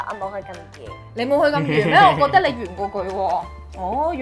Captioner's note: laughing